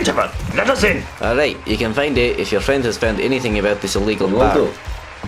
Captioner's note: awful Voice